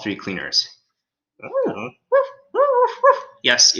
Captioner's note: Alien Space Doggy whimpers